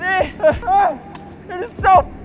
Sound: shouts

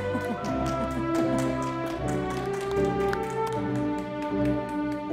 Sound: audience applauding

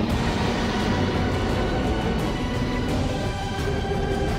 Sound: animal growling

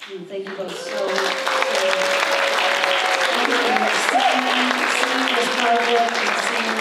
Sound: applause

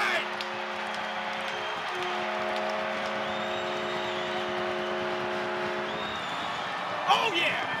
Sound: horn

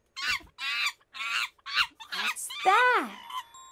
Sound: gibbering

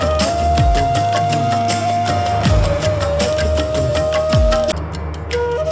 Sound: clap

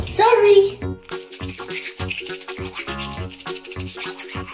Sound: brushing sounds

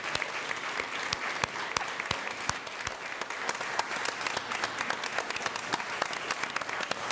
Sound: applause

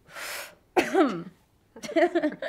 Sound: coughing; laughing

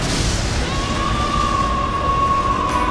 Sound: screaming

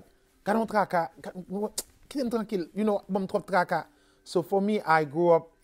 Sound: speaks in Haitian Creole

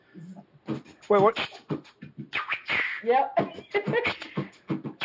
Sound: beatbox percussion

